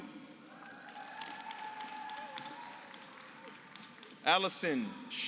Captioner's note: applause